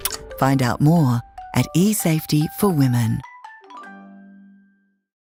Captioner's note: voiceover